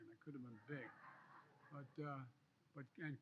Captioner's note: laughter